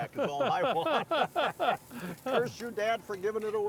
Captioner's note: group laughing